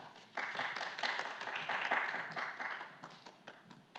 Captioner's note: audience clapping